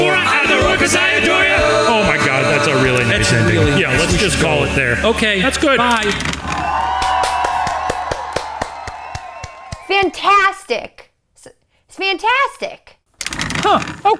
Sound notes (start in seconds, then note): 6.5 applause; 13.2 rattling